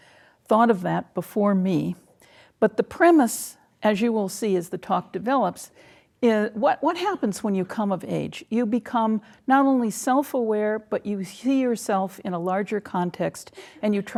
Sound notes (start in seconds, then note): none